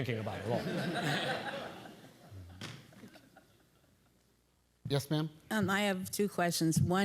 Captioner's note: laugh